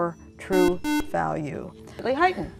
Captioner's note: buzzer